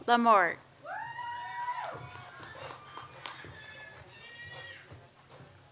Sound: audience cheers and applauds

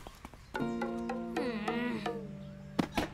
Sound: groans

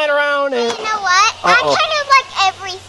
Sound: voiceover

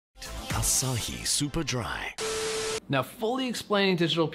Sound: film beeping

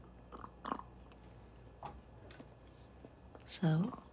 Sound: Tyler slurps

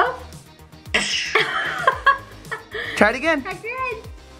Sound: laughing

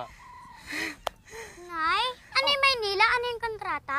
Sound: sighs in relief

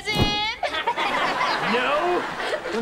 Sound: laughing

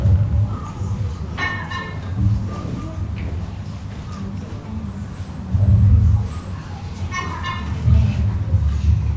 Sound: deep underwater thudding noises

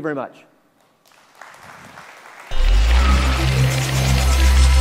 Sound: applause

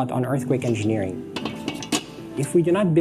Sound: metal clanking

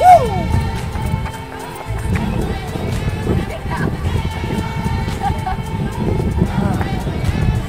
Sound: laughter

